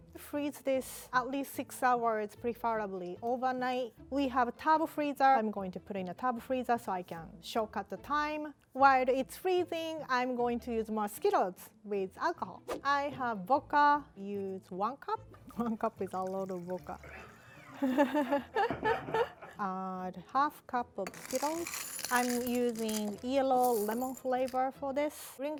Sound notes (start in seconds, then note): 17.5 everyone laughs